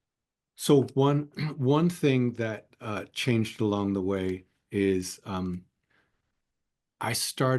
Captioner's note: cough